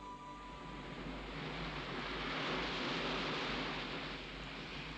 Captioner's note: waves crashing